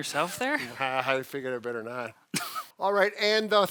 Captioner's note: laughs